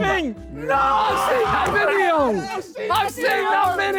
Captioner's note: Sidemen cheer